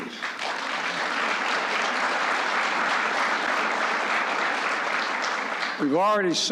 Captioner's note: applause